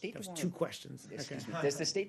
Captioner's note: laughter